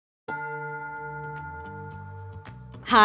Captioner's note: bell tolling; bright music